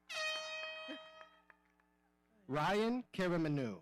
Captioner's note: horn blowing